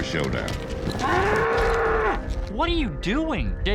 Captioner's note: bull mooing wildly